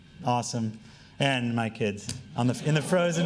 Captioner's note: laughing